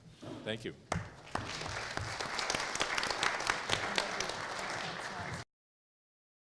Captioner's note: applause